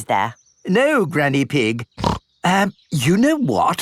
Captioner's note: snorts